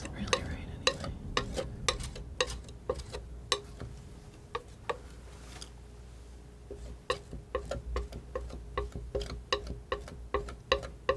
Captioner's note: tapping